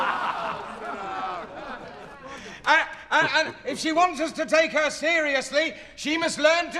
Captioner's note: soundbite of laughter